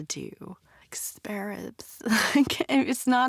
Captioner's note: laughs